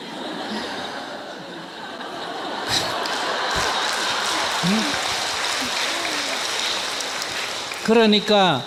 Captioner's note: audience Laughter/Applause